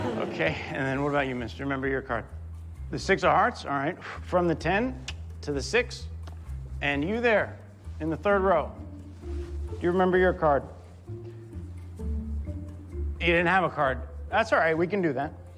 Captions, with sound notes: Okay. And then, what about you, miss? Do you remember your card? The six of hearts? All right. [blows] From the ten [clicks tongue] to the six. And you there. In the third row. Do you remember your card? You didn't have a card. That's all right, we can do that.